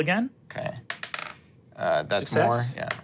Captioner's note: dice rolling